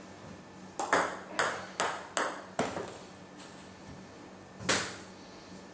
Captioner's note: balls ping pong hitting continues